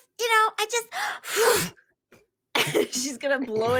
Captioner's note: blowing